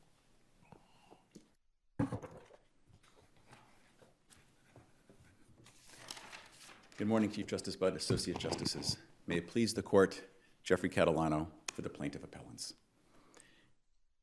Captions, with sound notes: (object banging) (papers rustling) - Good morning Chief Justice Budd, associate justices. May it please the court, Jeffrey Catalano for the plaintiff appellants.